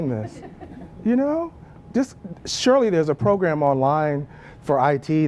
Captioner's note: laugh